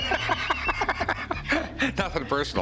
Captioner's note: laughter